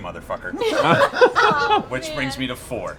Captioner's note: laughter